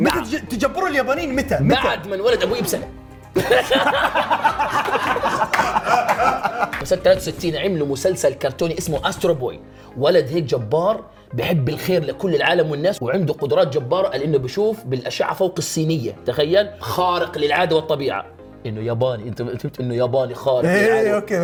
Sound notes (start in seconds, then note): 3.3 laughter